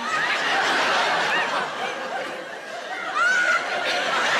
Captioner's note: audience laughs